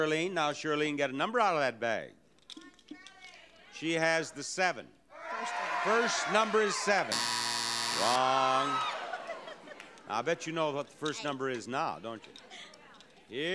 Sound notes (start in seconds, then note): 7.0 buzzer sounds